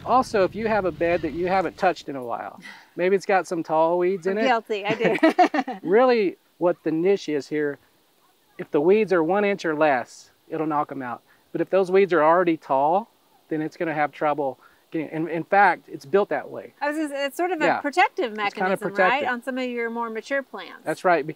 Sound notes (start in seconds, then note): 4.8 both laughing